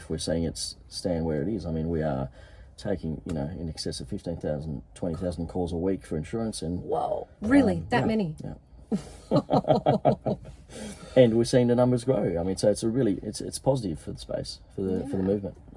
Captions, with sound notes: It's not as if we're saying it's staying where it is. , we are taking in excess of 15,000, 20,000 calls a week for insurance and- - Wow. Really that many. - Yeah. (laughs) And we're seeing the numbers grow. So, it's positive for the space for the movement.